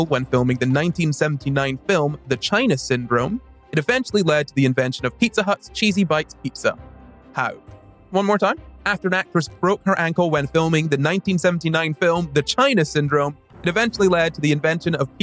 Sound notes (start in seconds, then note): none